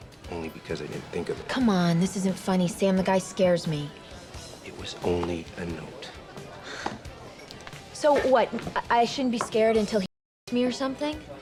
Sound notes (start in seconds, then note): 6.6 sighs